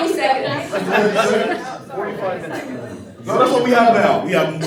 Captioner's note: laughter